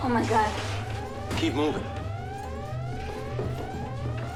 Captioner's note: alarm blares